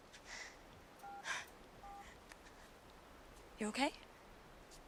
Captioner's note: phone beeps